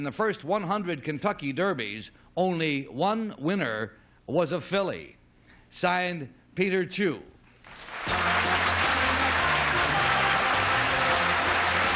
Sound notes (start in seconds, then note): 7.6 applause; 11.4 theme music